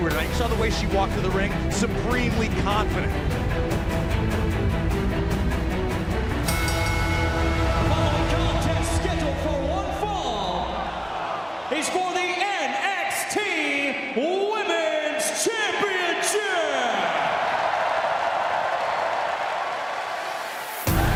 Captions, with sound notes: YOU SAW THE WAY SHE WALKED TO THE RING. SUPREMELY CONFIDENT. [BELL RINGING] >> THE FOLLOWING CONTEST SCHEDULED FOR ONE FALL IS FOR THE NXT WOMEN'S CHAMPIONSHIP! [CHEERS AND APPLAUSE]